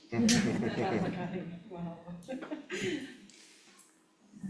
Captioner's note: everyone chuckling